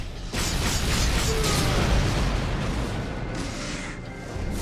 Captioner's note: grunting